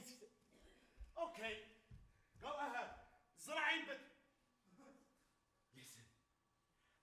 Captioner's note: speaks Arabic